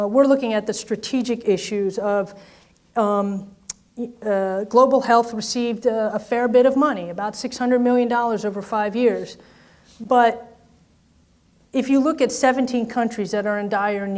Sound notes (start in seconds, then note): none